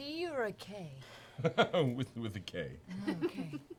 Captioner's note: laughs